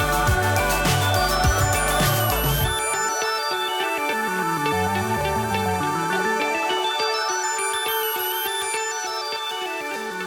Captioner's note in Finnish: Aplodeja